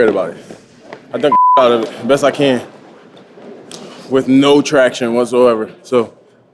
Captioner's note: beep